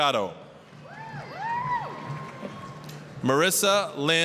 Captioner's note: applause, cheering